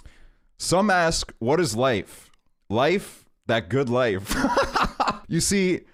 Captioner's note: laughs